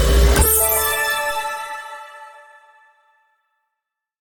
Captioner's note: chime ringing